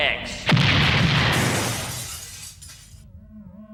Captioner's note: explosion